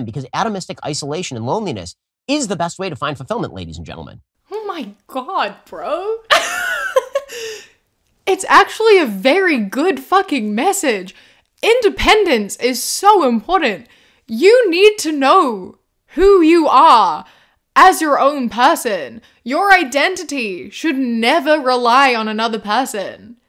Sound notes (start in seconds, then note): 6.3 laughter